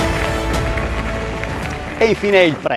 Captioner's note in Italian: Applauso